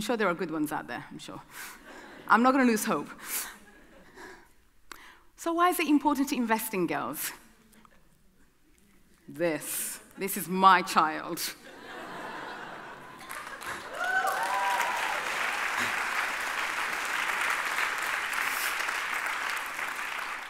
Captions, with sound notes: I'm sure there are good ones out there, I'm sure. I'm not gonna lose hope. So why is it important to invest in girls? This, this is my child. (audience cheering)